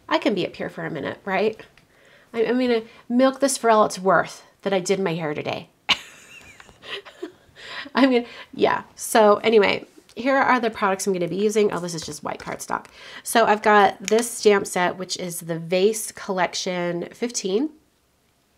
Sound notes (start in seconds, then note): 5.9 laughs